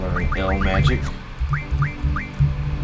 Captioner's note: muttering coherently